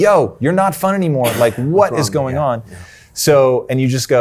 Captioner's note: sneezes